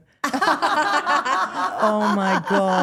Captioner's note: Stephanie and Elyse laughing